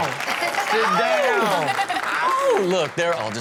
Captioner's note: audience applaud